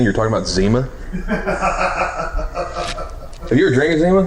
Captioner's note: cameraman laughing